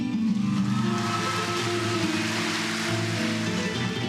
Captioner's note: crowd cheering